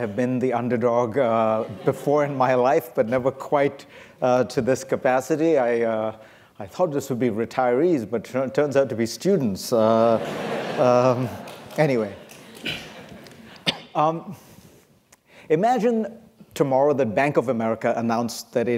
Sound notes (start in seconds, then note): 9.9 laughter